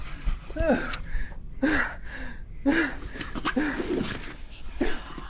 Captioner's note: Pete panting; lighter flicks; voices whispering